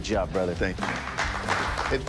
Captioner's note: applause